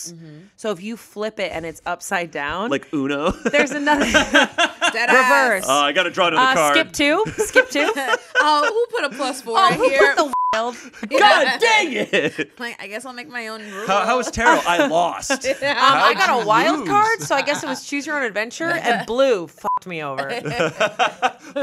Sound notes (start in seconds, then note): 3.2 everyone laughs; 10.2 beep; 19.6 beep; 20.3 everyone laughs